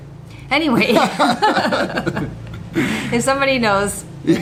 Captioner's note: both laugh